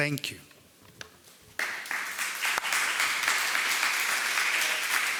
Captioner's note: audience applauding